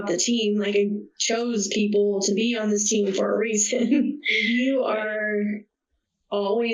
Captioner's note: laughs